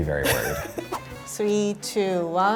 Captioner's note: laughing